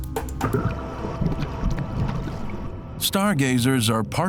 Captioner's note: gentle, dramatic music; water gurgles